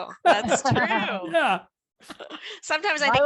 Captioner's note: laughter